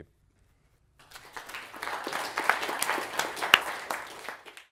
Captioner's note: applause